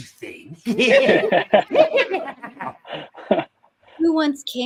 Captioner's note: laughing